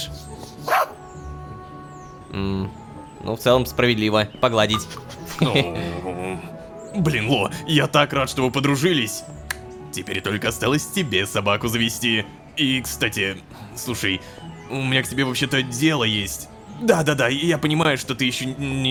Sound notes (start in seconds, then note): 0.6 robodog barking